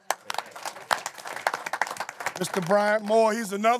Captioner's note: applause